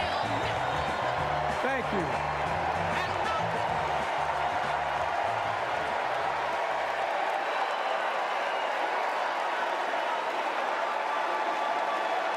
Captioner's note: applause